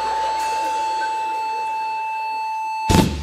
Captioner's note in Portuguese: bipe de parada cardíaca